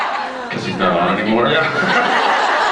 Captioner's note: laughs; laughs